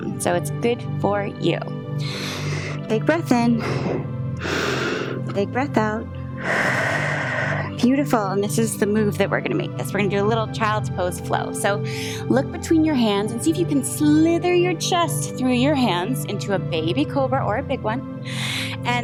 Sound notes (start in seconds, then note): 4.3 inhales; 6.3 exhales